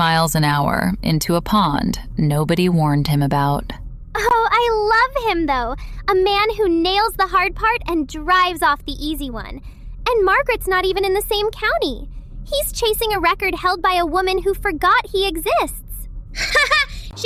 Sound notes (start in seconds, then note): 4.6 playfully